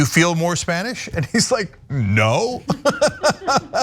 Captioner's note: laugh